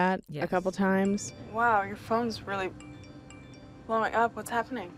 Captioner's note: notification dings